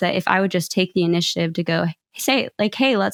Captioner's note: none